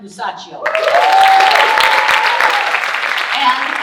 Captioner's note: audience cheering and applauding